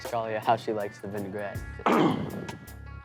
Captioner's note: coughs